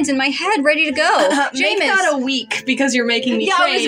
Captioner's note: clears Throat